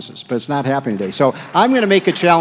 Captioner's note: applause